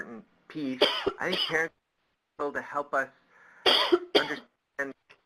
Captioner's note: coughs